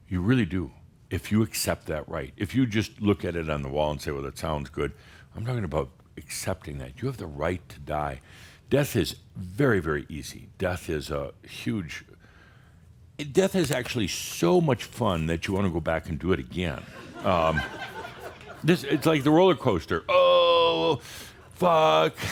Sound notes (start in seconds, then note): 16.8 some chuckles